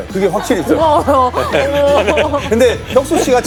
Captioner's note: haha